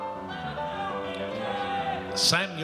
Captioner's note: audience cheers